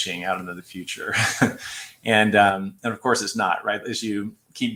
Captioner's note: laughter